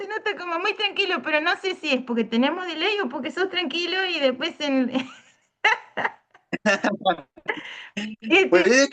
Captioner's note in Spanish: risas